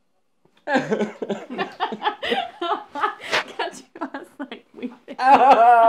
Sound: sobs forever

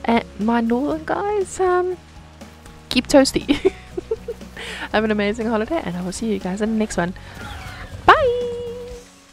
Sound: giggle

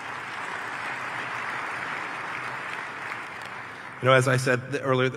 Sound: applause

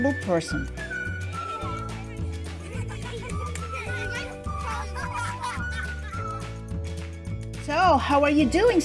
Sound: children playing and laughing

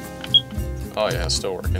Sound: alarm beeping

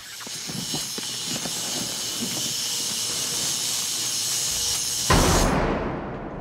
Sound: buzzing sounds; booming sound

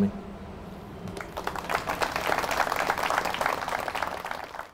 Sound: audience applauds

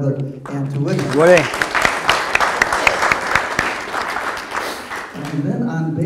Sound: audience applause

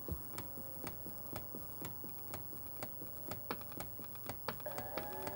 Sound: a repetitive clicking gets increasing loud

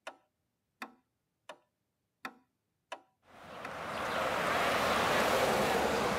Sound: ticking clock; car

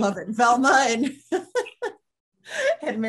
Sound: panel laughs

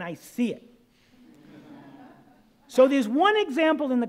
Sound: audience laughing

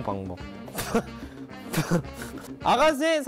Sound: burst into laughter

